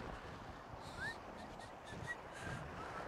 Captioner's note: whistling